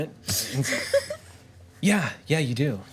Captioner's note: group laughs